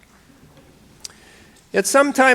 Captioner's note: audience laughing